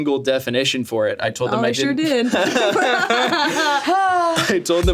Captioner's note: all laughing